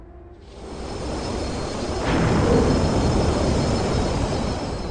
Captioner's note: plane engine roaring